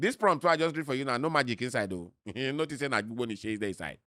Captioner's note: chuckles